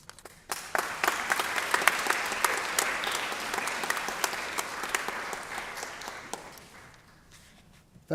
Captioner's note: applause